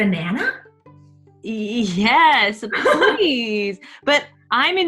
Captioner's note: giggling